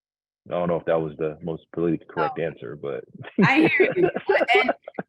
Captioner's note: laughs